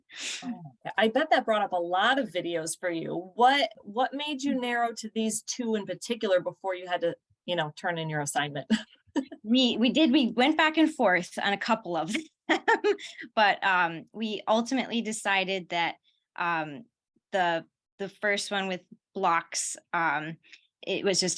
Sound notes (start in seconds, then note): 12.0 laughter